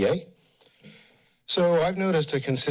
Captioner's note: pause